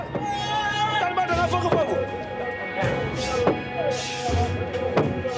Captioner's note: Senegalese spoken audio